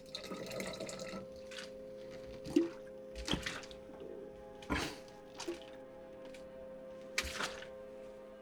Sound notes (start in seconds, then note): 2.1 gulping alcohol